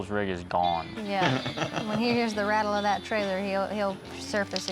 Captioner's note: laughs